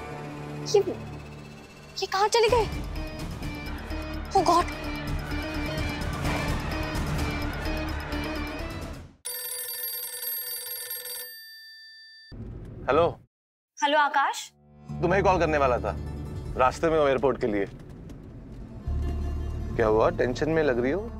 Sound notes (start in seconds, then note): 9.2 phone ringing